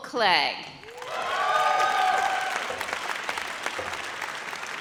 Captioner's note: audience cheers